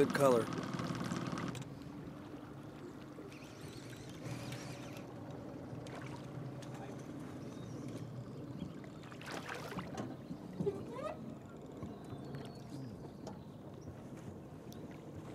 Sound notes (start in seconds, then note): 3.4 reel cranking; 8.8 fish splashing; 13.0 boat engine idling